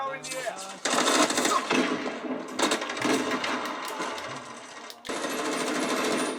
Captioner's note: video game sounds